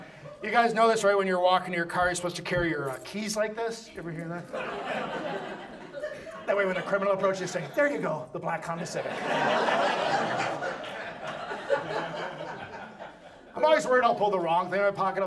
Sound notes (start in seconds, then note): 6.3 audience laughs; 8.8 audience laughs